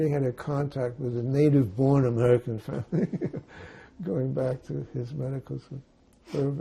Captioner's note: laughing